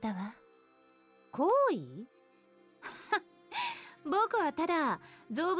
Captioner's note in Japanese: 笑い